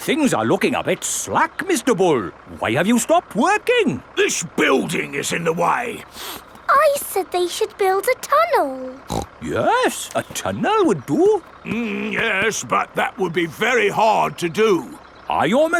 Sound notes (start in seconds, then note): 6.0 sniffs; 8.9 snorts